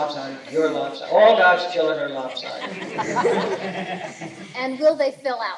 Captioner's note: laughter